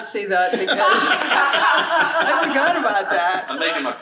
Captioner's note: audience laughing